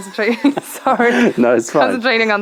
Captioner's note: laughter